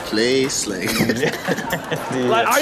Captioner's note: hosts laughing